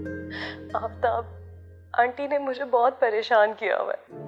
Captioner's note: sobbing